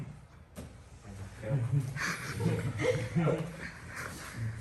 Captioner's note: other students laugh